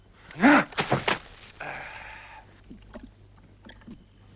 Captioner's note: Torente grunts